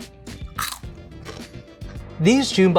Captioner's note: crunching